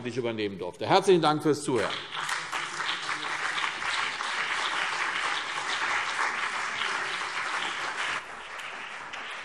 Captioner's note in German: Beifall CDU und BÜNDNIS 90/DIE GRÜNEN